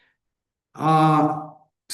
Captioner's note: англійською